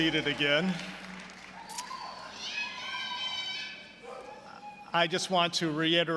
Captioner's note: audience cheering